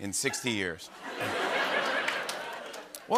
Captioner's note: laughter